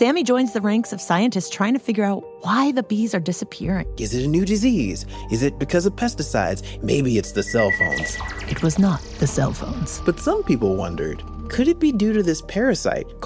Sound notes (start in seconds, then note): 8.6 whispered